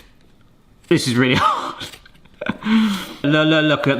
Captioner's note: chuckles